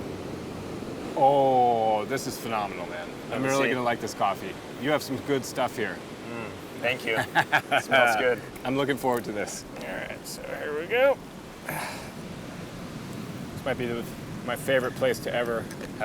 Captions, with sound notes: Ohh, this is phenomenal, man. - Let's see. - I'm really gonna like this coffee. You have some good stuff here. - Thank you. - [laughs] - Smells good. - I'm looking forward to this. All right, so here we go. Might be my favorite place to ever have coffee.